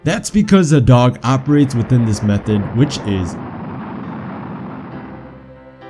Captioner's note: space shuttle launch